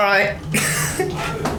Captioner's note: laughing